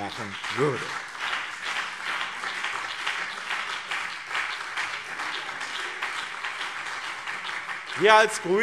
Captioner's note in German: Beifall BÜNDNIS 90/DIE GRÜNEN und CDU